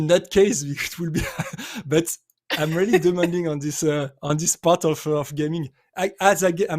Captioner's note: laughs